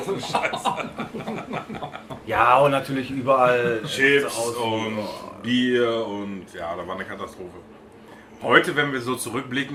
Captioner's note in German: lachen